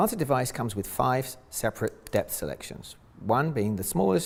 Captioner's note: cap clicking